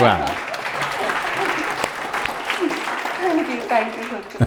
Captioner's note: applause